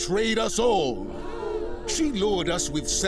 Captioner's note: crowd gasps